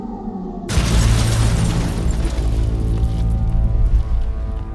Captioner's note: car crashing